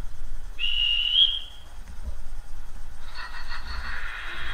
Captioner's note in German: Schaffnerpfiff